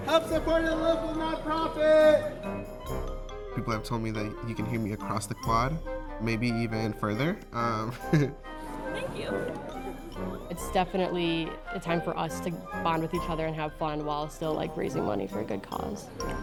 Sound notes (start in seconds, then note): 7.9 laughter